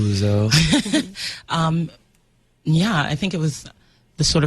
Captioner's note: laughs